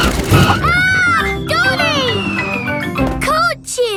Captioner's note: screams